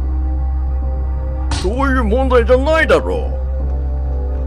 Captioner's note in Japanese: 胸を叩く音：ピシャ; 不穏なbgm